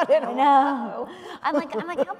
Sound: laughs

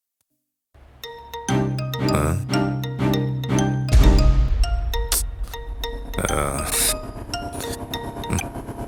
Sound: phone rings

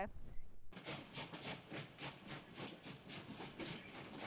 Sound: engine chugging

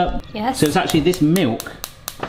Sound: hob clicks

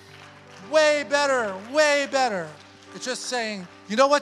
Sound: congregation applauds

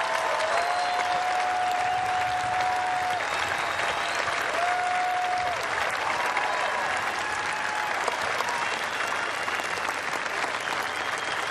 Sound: cheers and applause

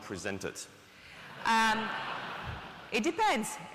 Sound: audience laughing

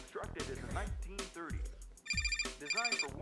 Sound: phone rings

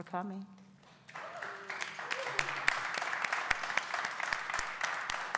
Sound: audience applauding

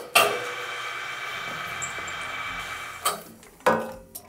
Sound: machine whirring

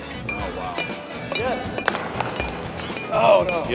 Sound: ball bouncing off bat

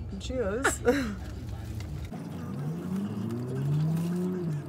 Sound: chews

